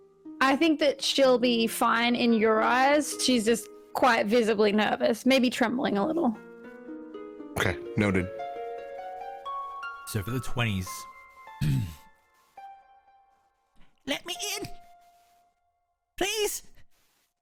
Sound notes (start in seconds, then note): 11.6 clears throat; 13.7 small squeaky voice